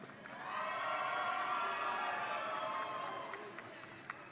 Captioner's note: audience cheering